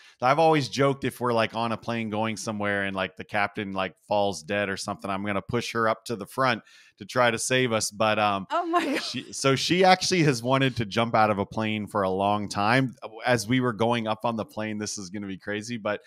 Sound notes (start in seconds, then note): 8.5 laugh